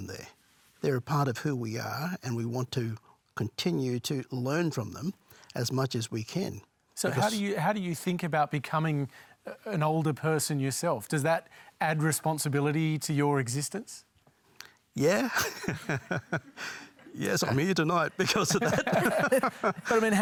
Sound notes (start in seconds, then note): 15.1 laughs; 20.0 laughter